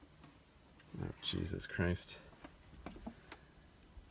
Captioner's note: almost under his breath